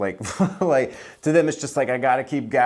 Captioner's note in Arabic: يضحك